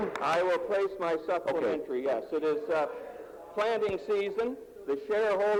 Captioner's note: some Applause